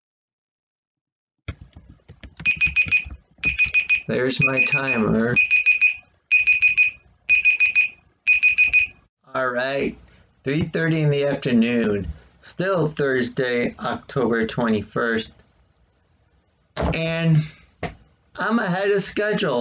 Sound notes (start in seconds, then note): 2.0 tapping of keyboard interrupted by beeping; 14.4 clunk of phone hitting desk